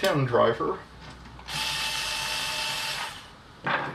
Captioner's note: whirrr